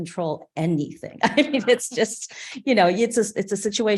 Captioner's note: chuckling